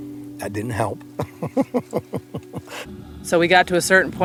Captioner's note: laughs